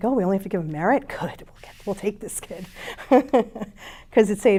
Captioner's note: chuckles